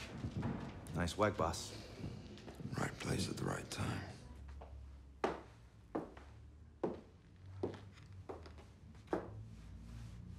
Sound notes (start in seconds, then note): 5.2 heels clack